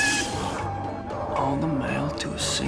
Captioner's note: muffled screaming